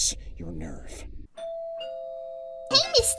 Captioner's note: doorbell